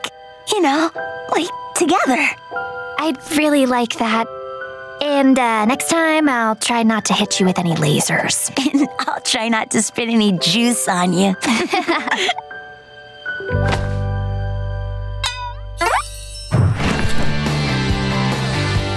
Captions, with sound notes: You know, like, together. I'd really like that. And next time I'll try not to hit you with any lasers. And I'll try not to spit any juice on you. [laughing]